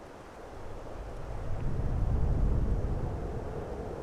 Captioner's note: wind whispering